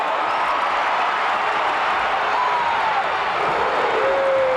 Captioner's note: audience roaring